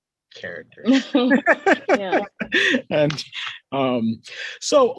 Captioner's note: both laughing